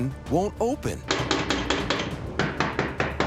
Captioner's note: sharp rapping on door